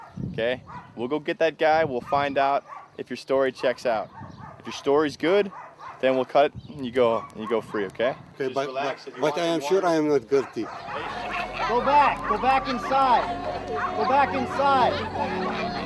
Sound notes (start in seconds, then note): 10.7 crying